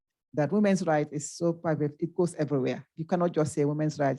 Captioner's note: speaking faintly